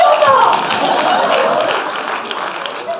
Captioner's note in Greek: χειροκροτηματα και καποιοι κανουν αποδοκιμασια